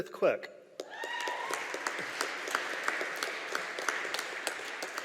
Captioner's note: audience applauding